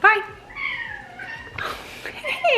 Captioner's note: cat meowing